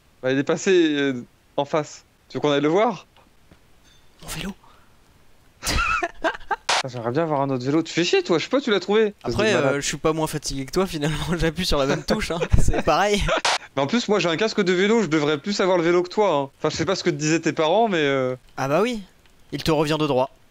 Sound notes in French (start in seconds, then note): 5.6 rire; 11.8 rire